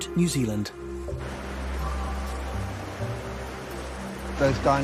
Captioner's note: water roaring